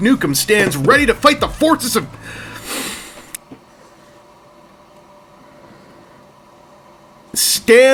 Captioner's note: long, sharp, annoyed inhale